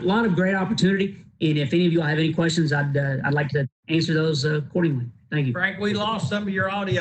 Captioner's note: broken audio